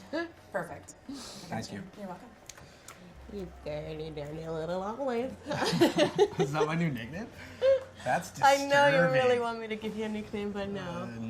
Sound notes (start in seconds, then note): 5.5 laughing